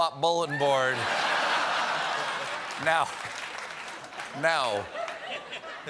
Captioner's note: laughter; applause